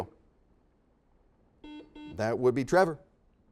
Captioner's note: series of beeps